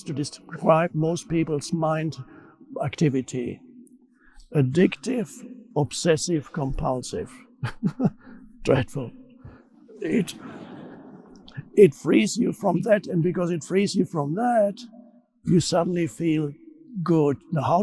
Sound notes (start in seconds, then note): 7.6 chuckles; 10.0 audience laughing